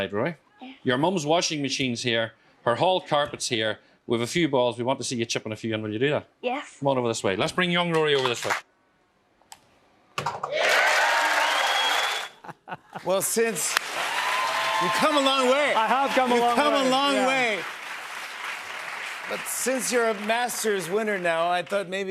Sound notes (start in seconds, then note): 10.4 cheers and applause